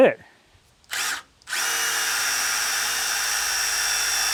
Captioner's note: drill whirring